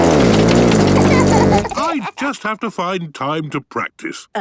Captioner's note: laughter